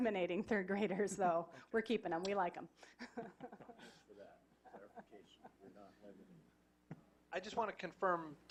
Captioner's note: laughing